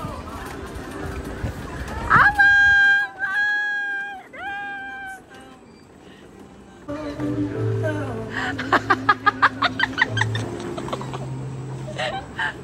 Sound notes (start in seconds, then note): 8.3 laughs